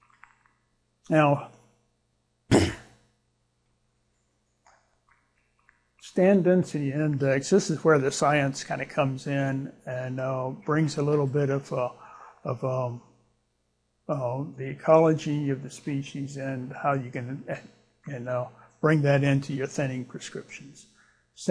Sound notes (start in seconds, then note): 2.5 clears throat